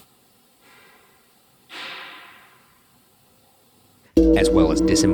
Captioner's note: distant clacking